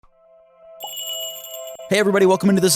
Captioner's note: magical jingle